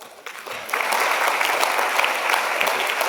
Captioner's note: applause